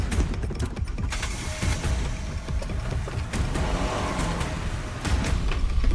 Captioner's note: dramatic music; car engine roaring; dramatic music